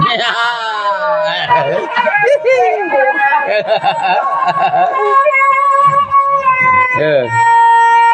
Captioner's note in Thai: เสียงหัวเราะ